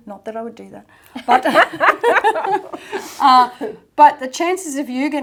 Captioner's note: both laugh